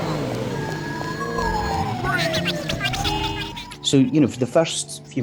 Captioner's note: sirens blaring